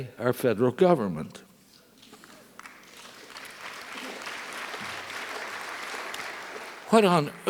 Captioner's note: applause